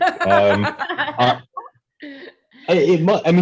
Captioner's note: laughing